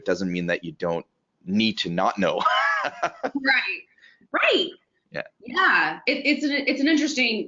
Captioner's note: laughs